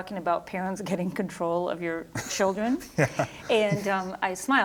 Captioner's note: laughing